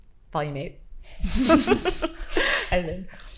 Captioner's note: participants laughing